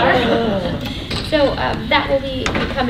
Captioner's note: laughter